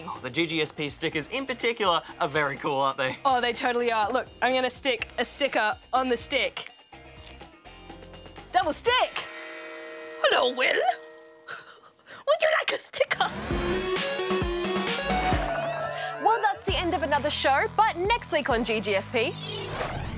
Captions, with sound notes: Oh, the GGSP stickers in particular are very cool, aren't they? Oh, they totally are. Look. I'm gonna stick a sticker on the stick. Double stick! (GRUFF VOICE) Hello, Will! (LAUGHS) Would you like a sticker? Well, that's the end of another show. But next week on GGSP...